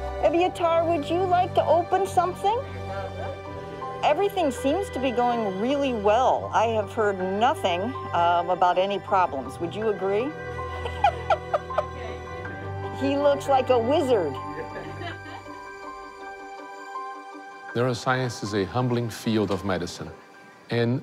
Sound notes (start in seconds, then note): 10.7 laughs; 14.4 all laugh